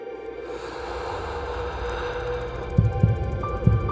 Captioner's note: suspenseful music; inhales